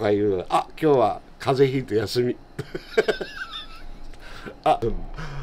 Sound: laugh

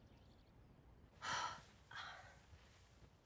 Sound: sighs, groans

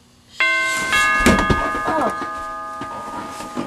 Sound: doorbell rings

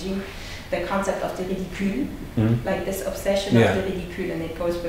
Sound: foreign language

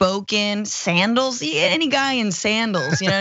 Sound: laugh

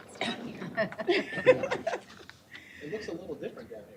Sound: laughter

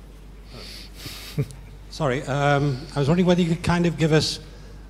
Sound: laugh

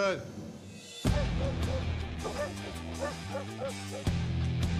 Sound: barking

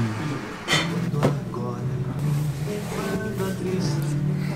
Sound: fabric flapping

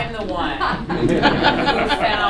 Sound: laughter

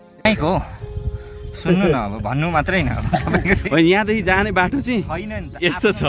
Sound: chuckles

